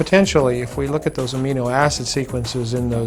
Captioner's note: voiceover